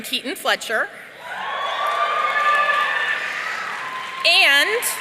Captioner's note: audience cheering